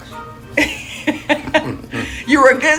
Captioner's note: laughter